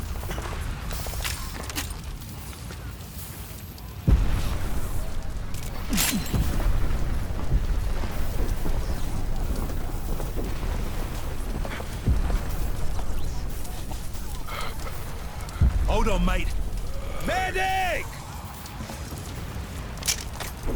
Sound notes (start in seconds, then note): 2.6 whistling; 4.0 thunder rumbling; 6.1 grunting; 7.0 thunder rumbling; 12.4 panting; 19.7 hissing